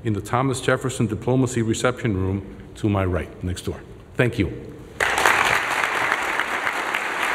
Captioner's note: applause